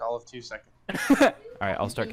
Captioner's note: laughs